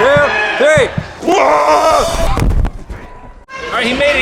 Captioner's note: thudding; low-pitched scream